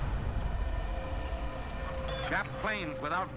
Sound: repeated explosions

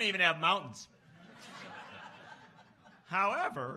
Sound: laughs

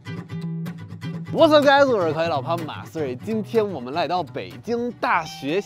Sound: upbeat guitar music; speaking in foreign language

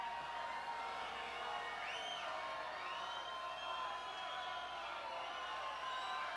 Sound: audience cheers; audience applauds

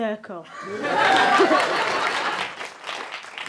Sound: applause

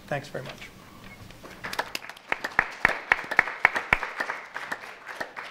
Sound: audience applauds

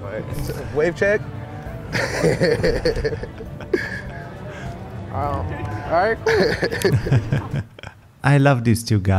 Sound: laughs

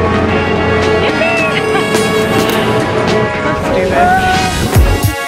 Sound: laughs

